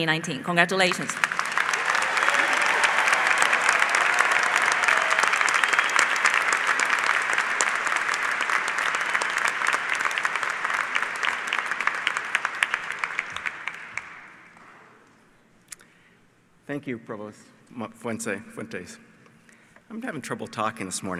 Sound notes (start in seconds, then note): 3.2 applause